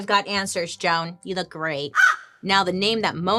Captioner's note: Joan caws